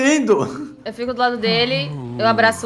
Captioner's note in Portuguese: respira fundo